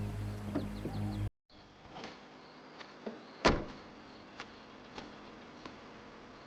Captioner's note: uneasy music; wildlife calling; birds chirp, insects buzz